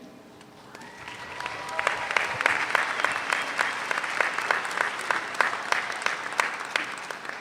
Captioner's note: audience applauds; audience cheers